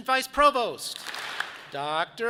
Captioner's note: audience claps